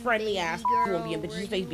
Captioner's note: beep